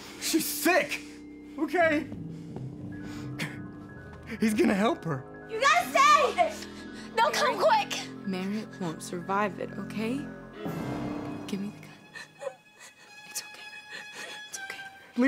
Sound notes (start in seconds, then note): 2.9 whimpering